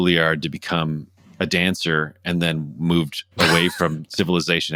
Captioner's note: laughter